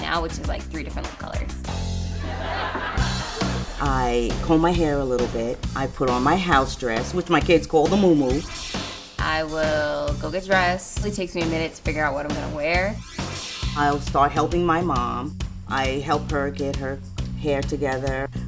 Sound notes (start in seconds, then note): 2.0 audience laughing; 3.1 upbeat rock music